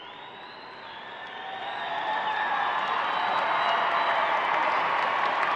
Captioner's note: audience applauds